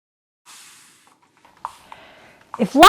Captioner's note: spray bottle spritzes